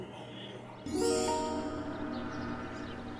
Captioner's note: magical sound